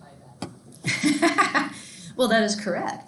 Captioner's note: laughing